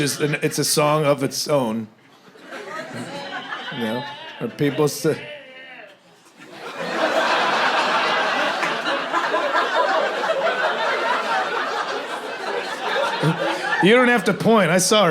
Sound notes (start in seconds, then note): 5.7 drunk audience member mumbling incoherently; 6.2 audience laughter